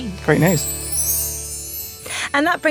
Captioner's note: chimes tinkling